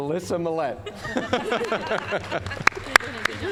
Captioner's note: all laughing; applause